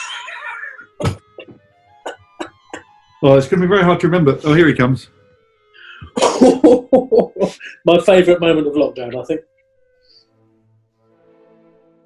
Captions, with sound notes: [LAUGHING] Well, it's going to be very hard to remember – oh, here he comes. [CHORTLING] My favourite moment of lockdown, I think.